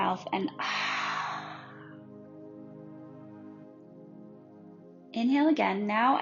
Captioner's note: deeply exhaling